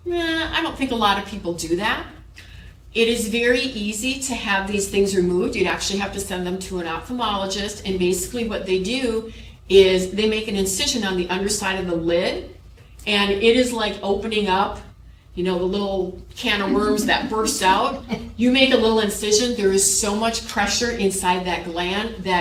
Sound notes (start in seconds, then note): 16.6 chuckles